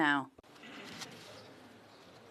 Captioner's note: speaking French